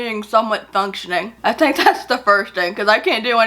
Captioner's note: laughs